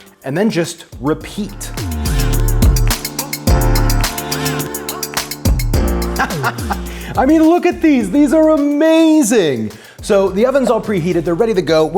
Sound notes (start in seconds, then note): 1.0 upbeat electronic music; 6.0 chuckles